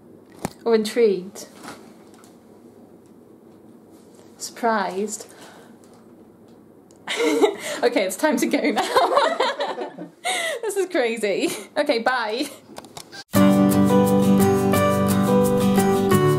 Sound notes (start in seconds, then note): 8.6 laughter; 13.3 upbeat music